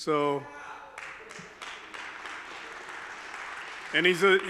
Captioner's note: audience member claps